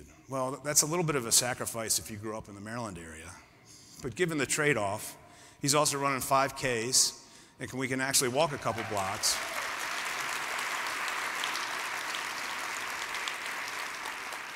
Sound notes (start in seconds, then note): 8.3 applause